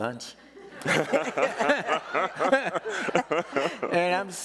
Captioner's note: all laughing